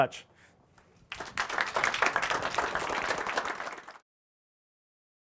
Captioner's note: audience applauding